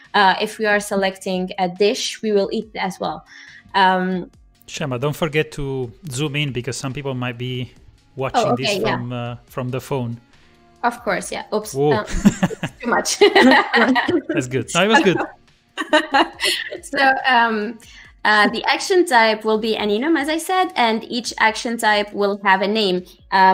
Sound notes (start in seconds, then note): 11.9 laughs